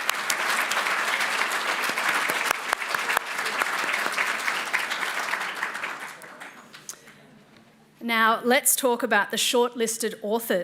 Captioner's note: applause